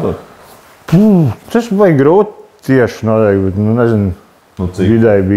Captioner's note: sighs